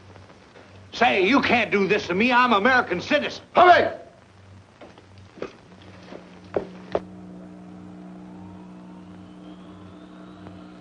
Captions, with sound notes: Say, you can't do this to me. I'm a American citizen. [yells in foreign language] [radio hums]